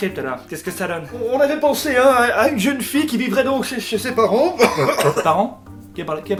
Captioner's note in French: tousse